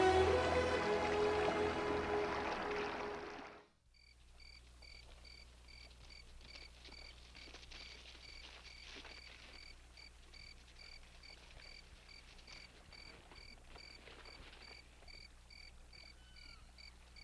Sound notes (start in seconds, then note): 4.0 bird and cricket sounds